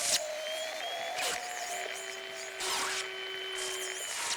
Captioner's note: crowd; hair dryer